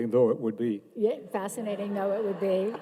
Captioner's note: audience laughing